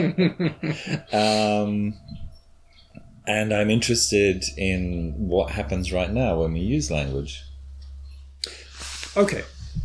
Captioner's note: chuckles